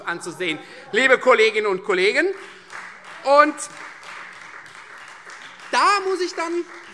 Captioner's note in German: Beifall Freie Demokraten - Zurufe SPD und DIE LINKE